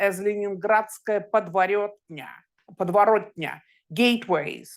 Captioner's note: speaking in Russian